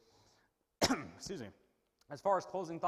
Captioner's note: coughs